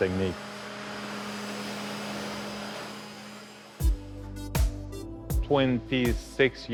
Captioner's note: cnc machine and blower sounds- music